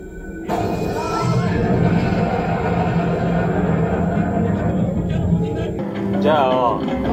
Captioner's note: laughs